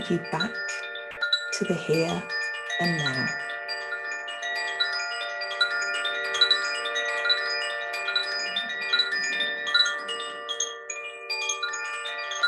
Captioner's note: chimes